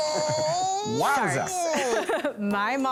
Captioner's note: laughs